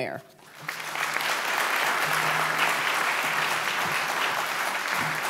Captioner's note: applause